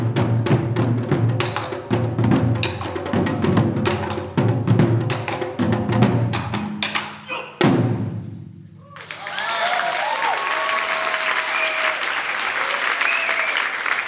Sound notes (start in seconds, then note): 8.8 applause and cheers